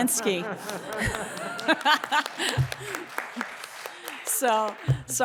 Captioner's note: all laughing and audience clapping